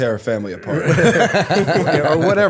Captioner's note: laughter